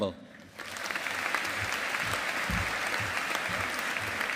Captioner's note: audience applauding